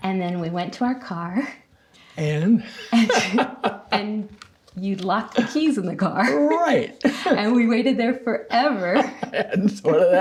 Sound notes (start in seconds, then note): 2.6 laughing; 8.8 both laughing